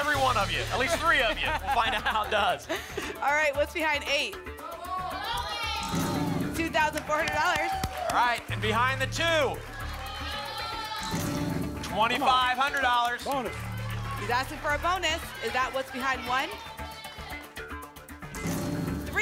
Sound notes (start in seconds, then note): 4.6 cheering; 10.0 cheering